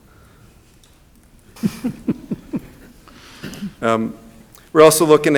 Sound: people chuckling

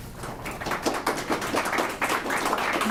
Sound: applause

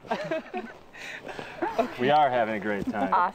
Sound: laughing

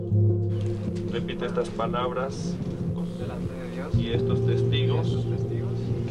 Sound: people speaking in foreign language

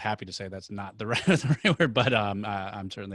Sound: chuckles

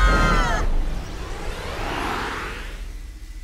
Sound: laser whirs

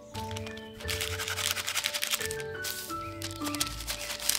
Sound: paper rustles

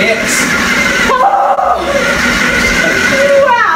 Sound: guttural shout

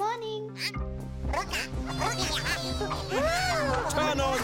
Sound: robotic chattering

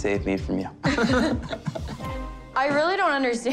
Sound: both laughing

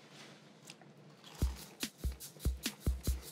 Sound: doughnut crunches; upbeat music

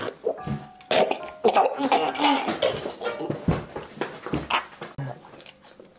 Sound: choking Noises

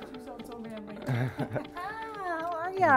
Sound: both laugh

